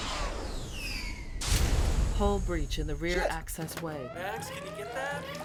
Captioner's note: computer Voice